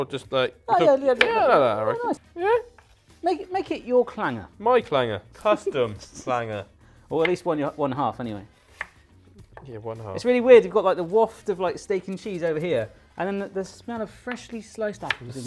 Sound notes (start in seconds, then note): 4.2 laughs